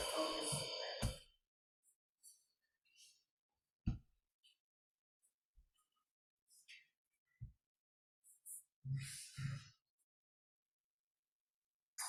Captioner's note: silence